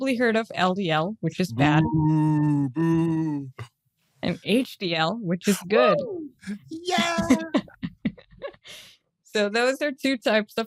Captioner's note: boo; they cheer